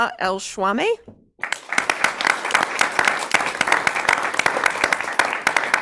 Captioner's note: audience clapping